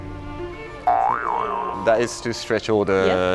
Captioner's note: boingggg